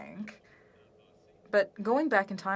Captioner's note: speaking French